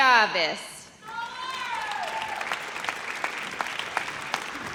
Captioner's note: audience cheers